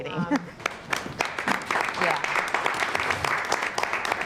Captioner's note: audience applauding